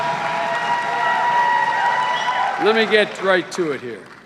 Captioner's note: cheers and applause